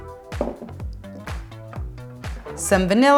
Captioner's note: jars clanks on wood